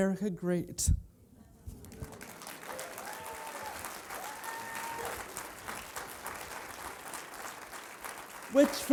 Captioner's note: applause